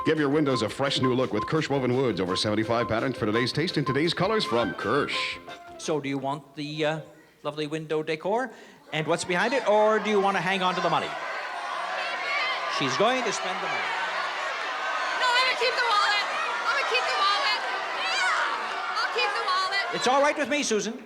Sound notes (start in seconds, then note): 11.0 yelling